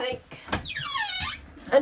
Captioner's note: squeaking